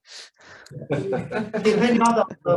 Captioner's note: laughter